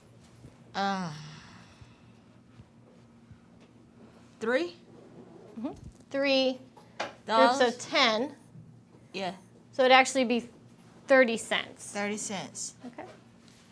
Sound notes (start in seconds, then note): 0.8 sighing